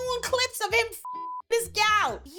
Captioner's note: beep